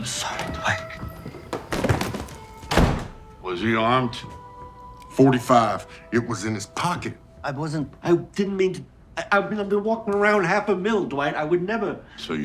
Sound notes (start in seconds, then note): 1.2 bag thudding; 1.4 door slamming; 9.2 stammering